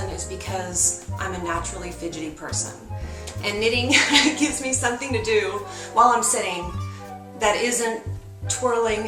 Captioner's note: laughs